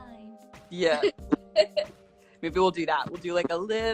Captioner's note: laughing